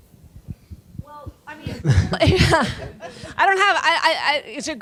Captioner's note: laughing